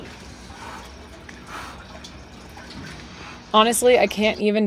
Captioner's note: breathing heavily